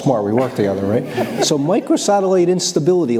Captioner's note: laughs